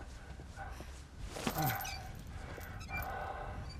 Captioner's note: heavy breathing